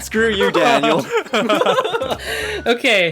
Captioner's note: laugh